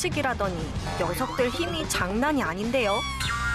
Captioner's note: grunting